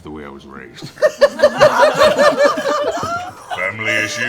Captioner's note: laughter